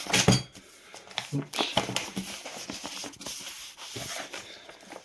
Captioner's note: pages rustle